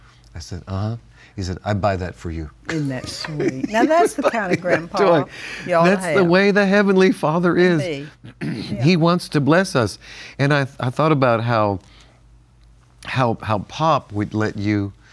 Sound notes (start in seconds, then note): 2.7 laughs